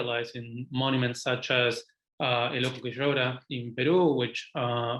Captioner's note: speaking foreign language